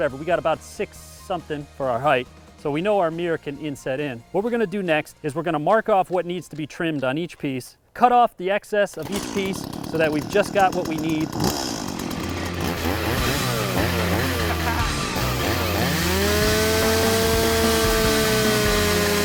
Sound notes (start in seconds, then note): 11.9 chainsaw revving; 14.8 hard rock music playing